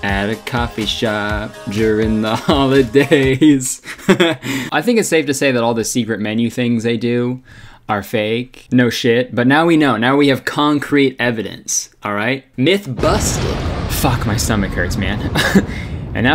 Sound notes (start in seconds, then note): 4.0 laughing; 13.2 metal slamming; 15.6 laughing